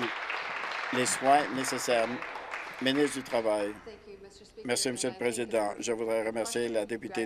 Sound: applause

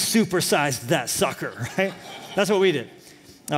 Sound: laughter

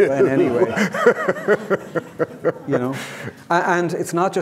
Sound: audience laughing

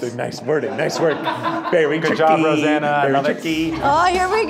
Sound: chattering

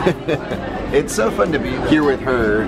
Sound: laughs

